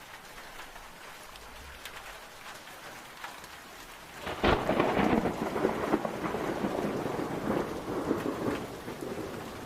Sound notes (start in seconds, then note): 4.2 thunder cracks